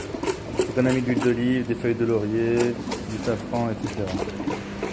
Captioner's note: speaking Arabic